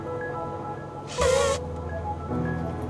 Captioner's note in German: Elefant trötet